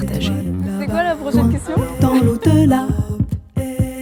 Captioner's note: laughs